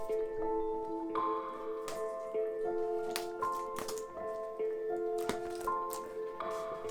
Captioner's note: tranquil music; paper clicking